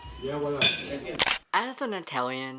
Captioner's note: camera shutter